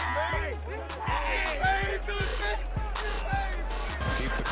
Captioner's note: overlapping chatter